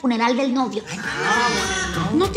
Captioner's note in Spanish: Exclamaciones